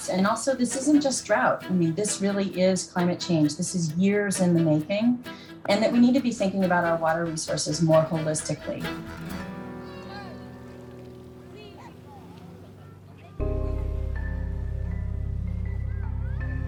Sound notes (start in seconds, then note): 9.7 people chattering; 9.7 somber music; 13.3 soft uneasy music